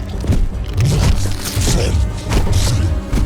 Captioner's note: crunching; roars